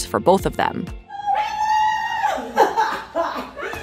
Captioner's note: joyful squeals